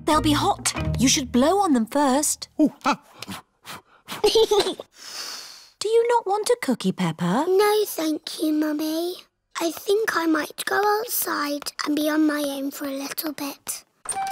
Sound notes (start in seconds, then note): 3.8 blows; 4.6 giggles and blows